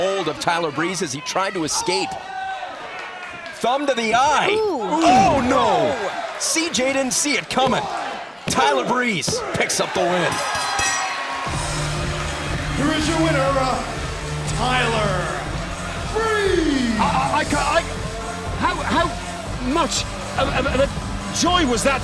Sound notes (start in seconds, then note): 12.7 bell ringing